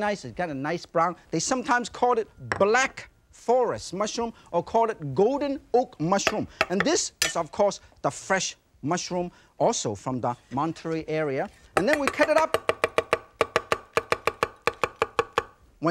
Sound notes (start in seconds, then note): 2.7 saucer thuds softly; 6.6 knife thudding; 7.2 knife clinks; 14.1 knife thudding